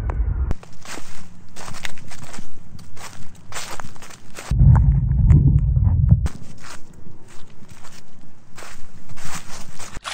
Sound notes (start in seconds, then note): 4.5 under water sounds; 9.9 choking, water splashing